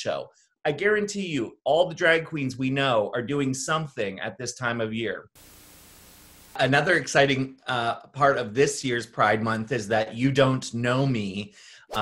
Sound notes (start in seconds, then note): 5.3 static hisses